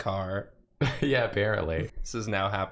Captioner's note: laughs